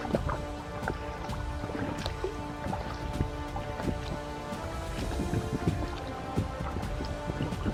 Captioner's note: paddling, wind & suspenseful music